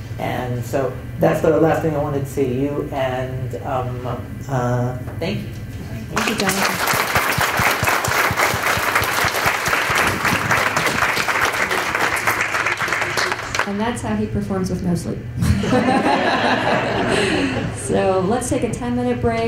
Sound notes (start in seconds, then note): 8.2 applause; 15.4 chuckles